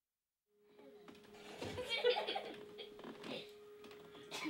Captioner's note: children laughing